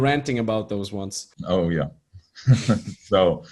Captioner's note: chuckling